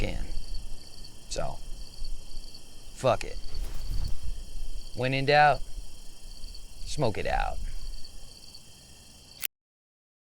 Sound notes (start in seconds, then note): 1.0 crickets chirping; 4.3 crickets chirping; 8.2 crickets chirping